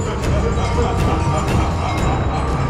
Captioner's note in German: dämonisches Lauchen